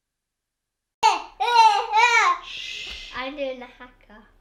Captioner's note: yelling